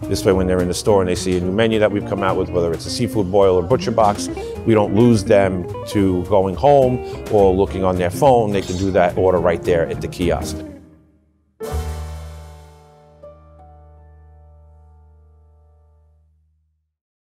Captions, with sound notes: This way when they're in the store, and they see a new menu that we've come out with, whether it's a seafood boil or butcher box, we don't lose them to going home or looking on their phone. They can do that order right there at the kiosk. (logo bings)